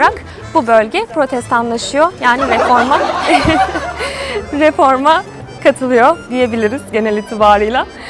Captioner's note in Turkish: kahkaha